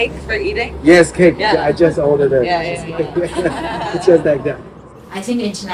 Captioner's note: laughter